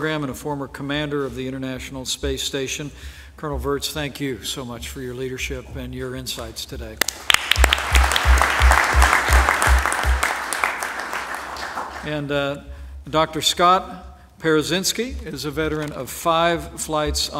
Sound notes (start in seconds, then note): 7.0 applause